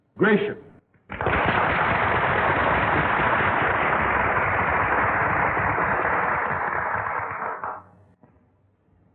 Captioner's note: applause